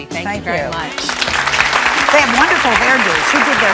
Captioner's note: audience clapping